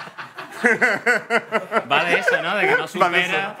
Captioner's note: laughs